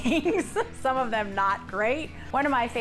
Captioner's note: laughing